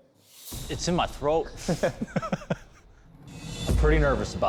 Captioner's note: laughter